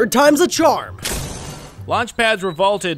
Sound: metals clanking

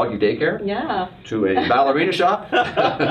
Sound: laughs

